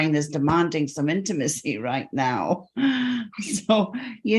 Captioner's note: chuckles